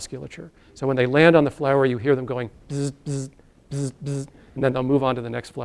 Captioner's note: buzzes